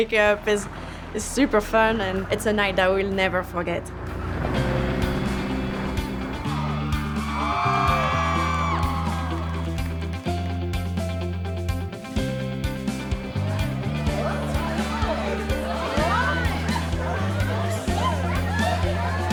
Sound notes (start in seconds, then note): 6.2 all cheering